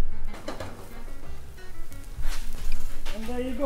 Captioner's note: frittata sizzles